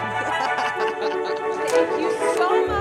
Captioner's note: Sandra laughing